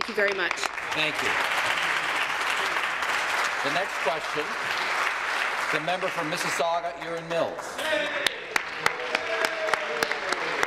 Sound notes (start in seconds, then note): 3.6 applause